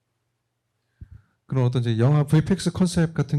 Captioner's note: speaking korean